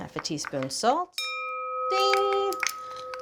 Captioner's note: bowl ringing